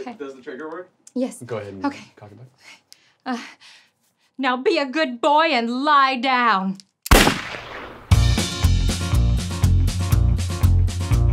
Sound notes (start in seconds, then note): 7.0 gun firing